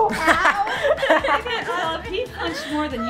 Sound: laughter

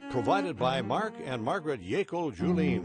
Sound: voiceover

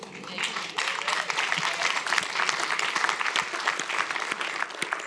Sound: audience applauds

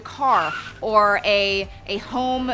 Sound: tires screeching

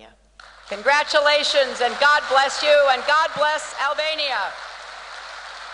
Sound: applause

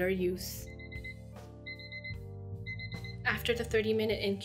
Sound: alarm rings

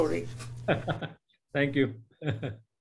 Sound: laughing

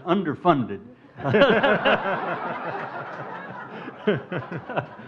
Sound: crowd laughs

